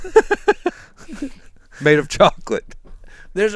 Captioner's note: laughs